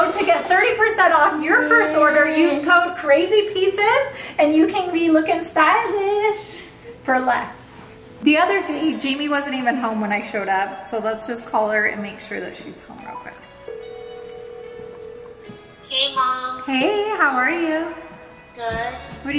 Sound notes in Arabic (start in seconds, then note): 13.1 رنين الهاتف